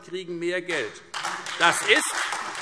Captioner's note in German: Beifall